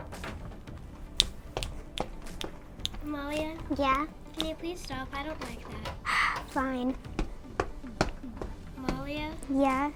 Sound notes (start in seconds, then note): 1.1 snapping and stomping; 6.3 sigh; 7.0 stomping